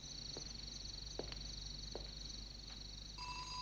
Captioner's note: ring